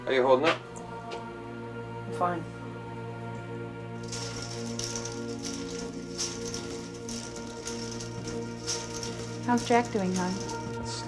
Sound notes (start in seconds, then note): 3.9 bead curtain clatters